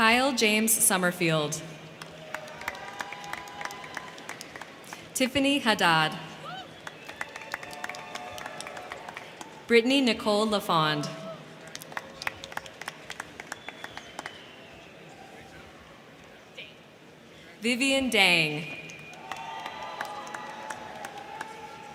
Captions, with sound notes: Kyle James Summerfield. (crowd cheering) Tiffany Haddad. (crowd cheering) Britney Nicole Lafond. (crowd cheering) Vivian Dang. (crowd cheering)